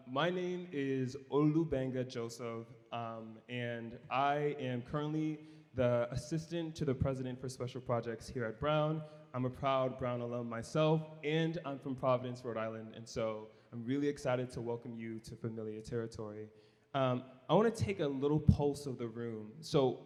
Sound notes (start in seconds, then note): none